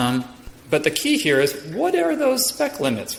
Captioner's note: none